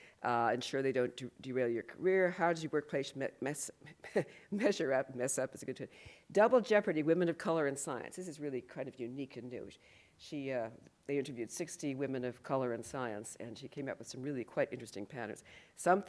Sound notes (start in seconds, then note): 5.0 laughs